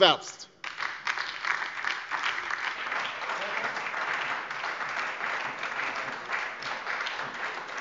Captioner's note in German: Beifall bei der LINKEN und der FDP